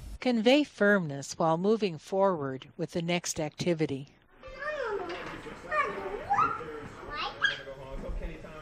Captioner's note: chatting happily